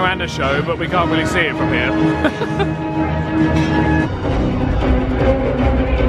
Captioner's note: chuckles; energetic dramatic music